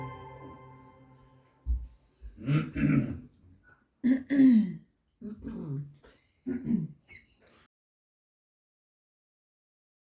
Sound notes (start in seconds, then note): 2.6 audience clears throat; 6.4 audience clears throat